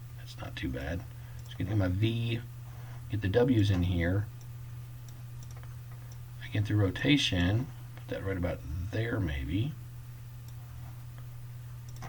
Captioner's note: clicking